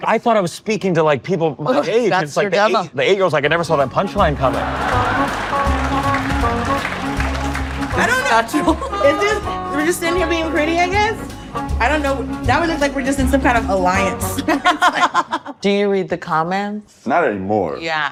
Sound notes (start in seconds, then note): 4.4 audience applauding; 5.0 playful music; 7.9 laughing; 14.4 both laughing